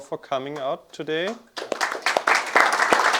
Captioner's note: applause